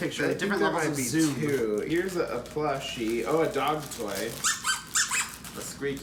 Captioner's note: dog toy squeaks